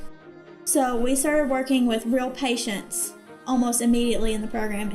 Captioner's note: voice-over